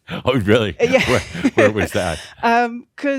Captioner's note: she chuckles